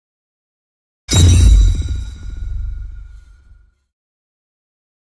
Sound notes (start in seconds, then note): 1.1 sound of impact